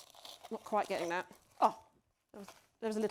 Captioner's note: metal squeaking